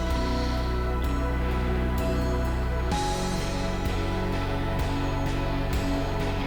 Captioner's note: exhales